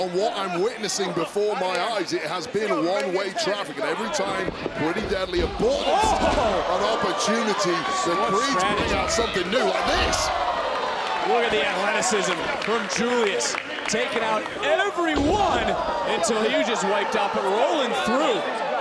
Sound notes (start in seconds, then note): 10.2 audience cheering